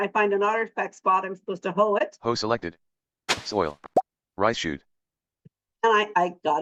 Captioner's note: pop